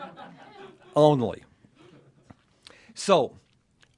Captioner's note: laughter